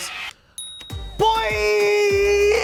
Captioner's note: bell ringing